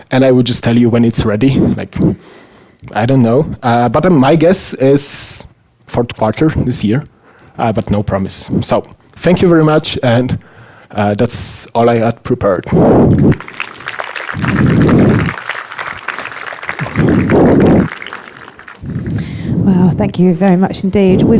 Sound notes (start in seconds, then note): 13.2 audience applauds